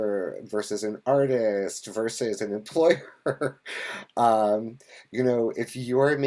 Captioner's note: laughs